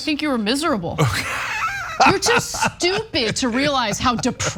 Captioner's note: laugh